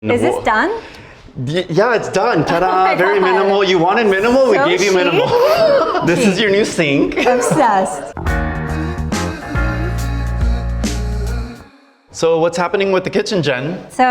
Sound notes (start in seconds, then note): 2.4 laughs; 7.4 upbeat music